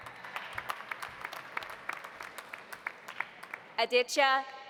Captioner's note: audience applauding